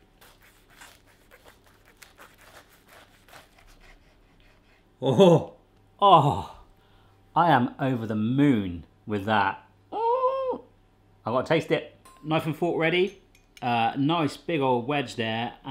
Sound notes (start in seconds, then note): 0.3 puff pastry crunching; 9.9 squeals